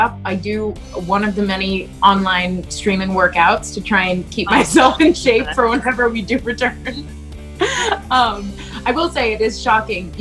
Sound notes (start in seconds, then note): 6.6 laughs